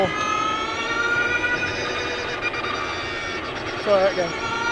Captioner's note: engine revving